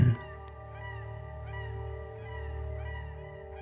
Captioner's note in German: Vogelschreie